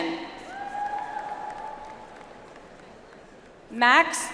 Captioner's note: audience applauds